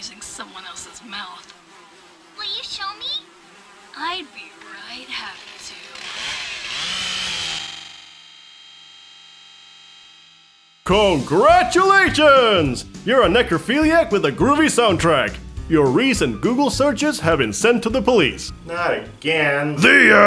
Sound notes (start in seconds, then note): 6.2 chainsaw buzzing